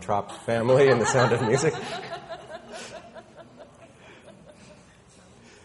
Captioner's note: woman laughing